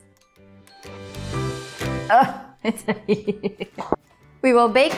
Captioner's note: chuckling